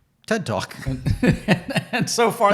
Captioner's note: both laugh